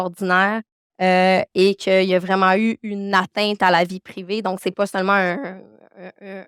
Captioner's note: continues speaking French